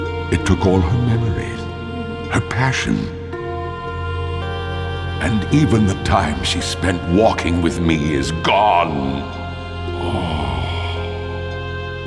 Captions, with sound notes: It took all her memories. Her passion. And even the time she spent walking with me is gone! (Melancholic sigh)